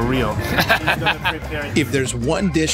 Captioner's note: laughing